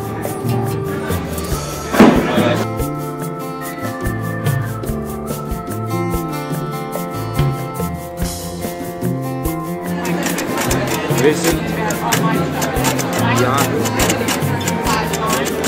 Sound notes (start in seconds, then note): 1.9 clunk on floor; 9.4 crowd murmur, clicking of typewriter keys mixes with music